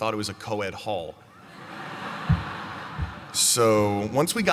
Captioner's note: laughter